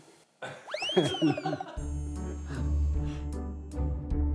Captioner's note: everyone bursts out laughing ㅎㅎㅎㅎㅎㅎ